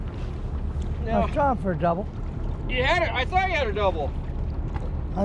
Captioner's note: fish splashing